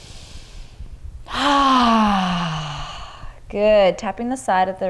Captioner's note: inhales deeply; exhales deeply